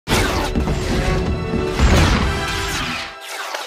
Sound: explosions

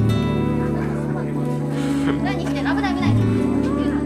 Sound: chuckles

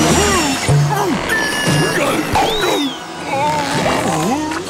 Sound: grunting

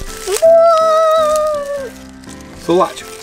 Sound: Assistant coos

